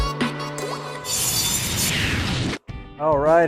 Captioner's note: saw blade buzzes